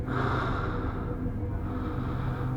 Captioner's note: man breathing heavily